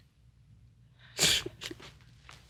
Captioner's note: sobbing